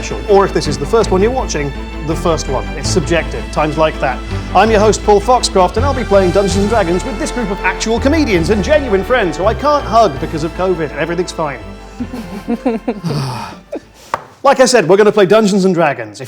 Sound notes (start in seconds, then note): 11.9 group laughs